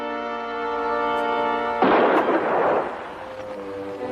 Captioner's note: gunshot